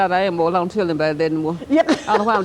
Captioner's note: laughter